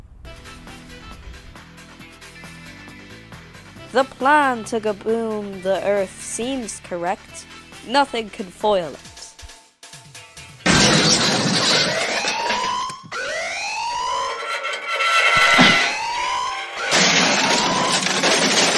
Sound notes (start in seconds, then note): 12.6 annoying Alarm; 13.9 even more annoying scraping; 16.9 crash!